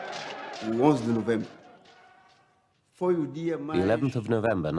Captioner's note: non-english speech